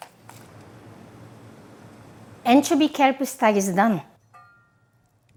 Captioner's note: water boiling